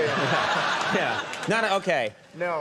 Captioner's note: audience laughing